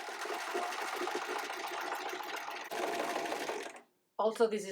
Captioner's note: sewing machine tapping